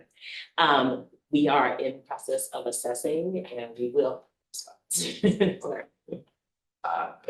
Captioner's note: laughs